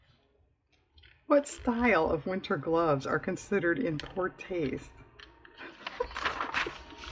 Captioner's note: laughs